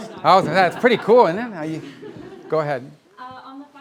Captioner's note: laughter